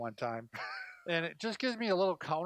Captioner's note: laughs